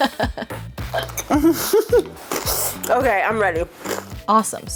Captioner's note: laughs